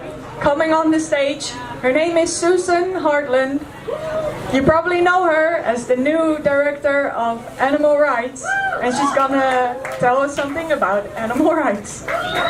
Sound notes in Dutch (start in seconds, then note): 8.4 gejuich; 12.0 groot applaus